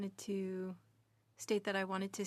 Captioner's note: speaking french